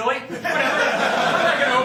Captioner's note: laughter